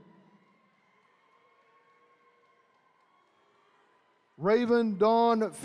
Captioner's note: attendees cheering